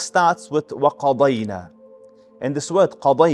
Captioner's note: Arabic